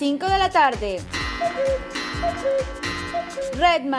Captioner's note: clock sound effect